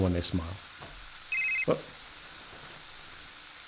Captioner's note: cell phone ringing